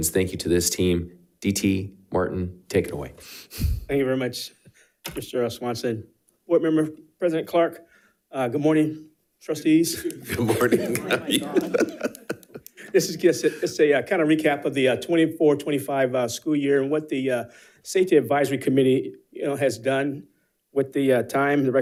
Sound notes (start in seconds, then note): 9.9 laughs